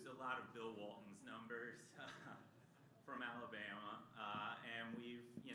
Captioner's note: laughter